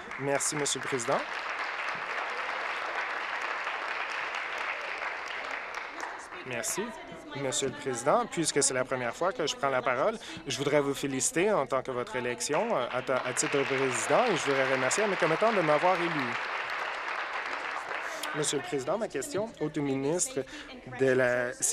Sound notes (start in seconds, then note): 4.6 applause; 18.0 applause